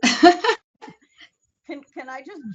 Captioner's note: laughs